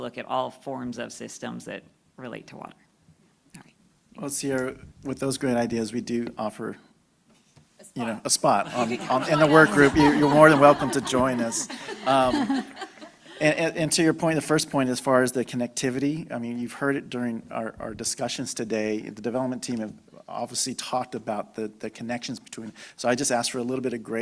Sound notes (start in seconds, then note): 12.0 laughter